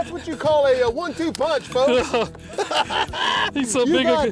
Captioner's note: laughing